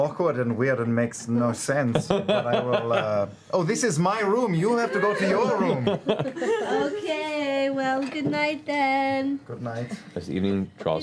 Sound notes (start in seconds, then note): 7.2 sing-song